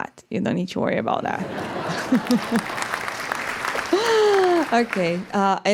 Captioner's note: laughter and applause